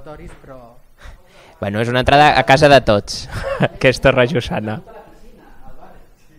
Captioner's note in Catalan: Riu